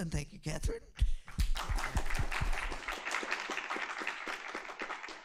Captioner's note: applause